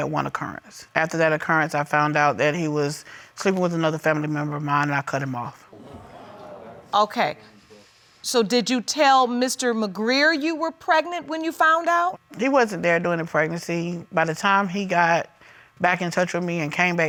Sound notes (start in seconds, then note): 5.7 audience groans